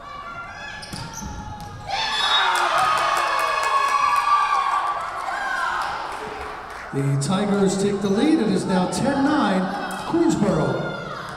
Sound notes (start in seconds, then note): 1.4 Tigers cheering; 2.5 whistle blowing